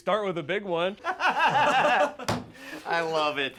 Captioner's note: laughs; Jewels and Tony laugh